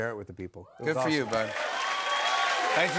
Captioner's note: cheers and applause